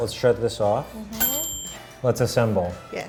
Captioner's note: timer dings